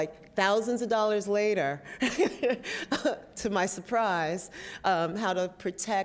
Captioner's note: laughs